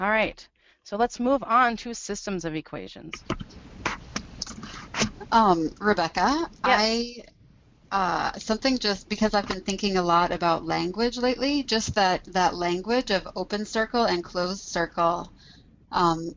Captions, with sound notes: Alright so let's move on to systems of equations. - [Voiceover] Rebecca, something just, because I've been thinking a lot about language lately, just that language of open circle and closed circle,